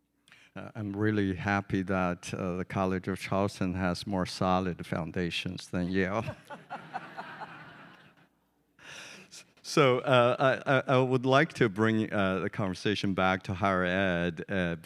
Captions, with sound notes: - I'm really happy that the College of Charleston has more solid foundations than Yale. (audience chuckling) So, I would like to bring the conversation back to higher ed